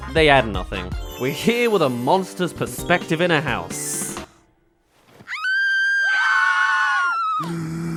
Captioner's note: screams* *Groans